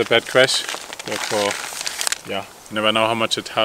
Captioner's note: paper rustling